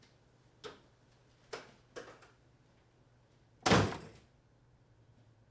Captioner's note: door opening and slamming shut